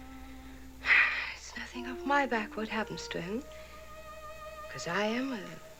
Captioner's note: sighs